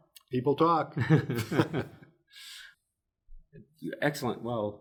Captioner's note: both chuckle